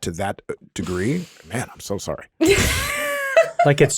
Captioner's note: laughing